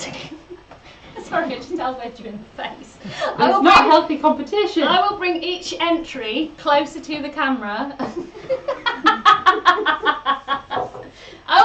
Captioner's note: laughs; laughs